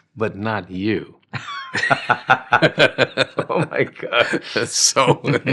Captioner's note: laughing